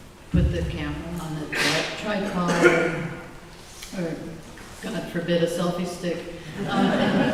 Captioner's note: laughter